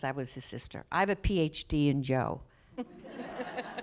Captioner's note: laughter